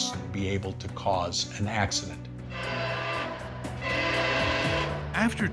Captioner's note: train horn blaring